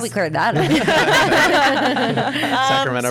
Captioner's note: laughs